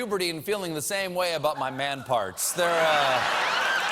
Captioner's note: laughter